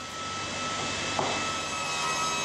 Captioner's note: sound of sawing